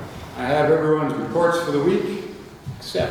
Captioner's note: none